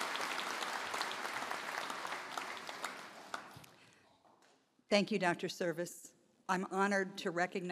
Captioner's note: applause